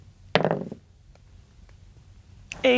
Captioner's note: dice rolling